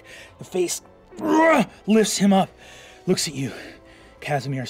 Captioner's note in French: grogne